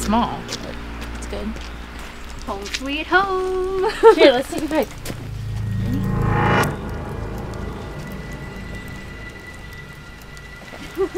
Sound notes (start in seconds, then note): 3.8 laughing; 6.9 dramatic piano music